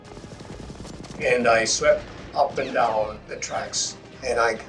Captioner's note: machine gun fires